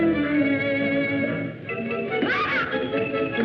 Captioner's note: yell; laughter